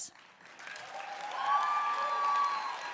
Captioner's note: applause